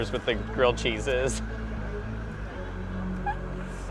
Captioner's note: laughs